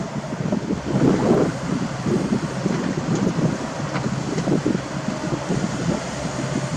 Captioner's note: sand crush